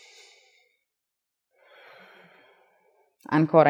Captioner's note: exhale